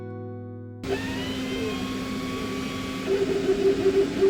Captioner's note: tool buzzing